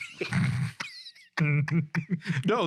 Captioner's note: laughing